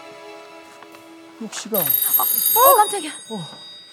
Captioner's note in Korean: 전화벨 소리